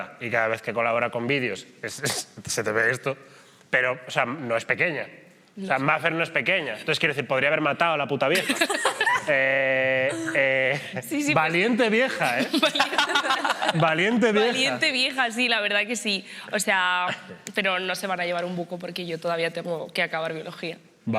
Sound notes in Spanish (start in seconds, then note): 8.4 todos ríen; 12.4 todos ríen